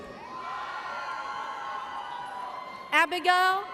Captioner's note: audience cheers